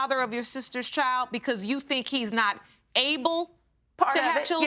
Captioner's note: none